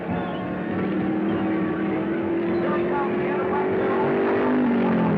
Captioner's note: car whirring